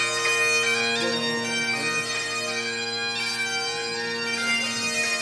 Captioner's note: people murmuring